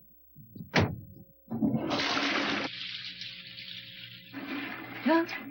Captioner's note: sound of toilet flushing